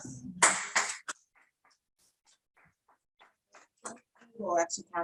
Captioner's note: audience clapping